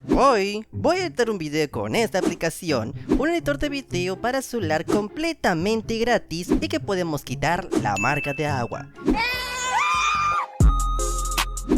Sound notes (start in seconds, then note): 9.1 screams